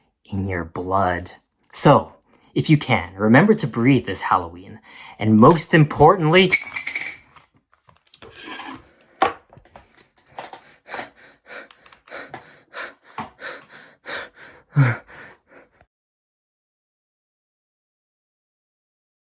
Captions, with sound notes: in your blood. So, if you can, remember to breathe this Halloween and most importantly [object falling] [shuffling and heavy breathing]